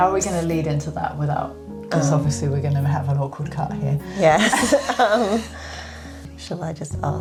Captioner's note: giggles